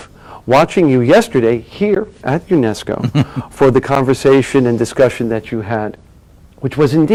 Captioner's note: Sadhguru laughs